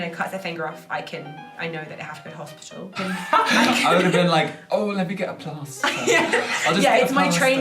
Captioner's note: laughter